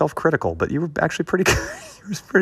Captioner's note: laughter